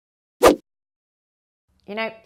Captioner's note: whooshing